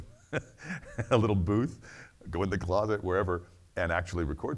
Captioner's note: laughs